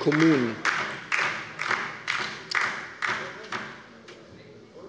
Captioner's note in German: Beifall bei der LINKEN